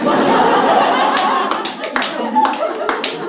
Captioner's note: snaps fingers